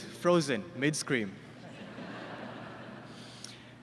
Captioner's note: laughter